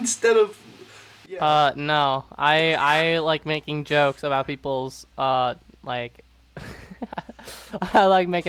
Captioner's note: laughing